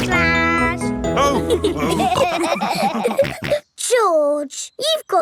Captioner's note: all laughing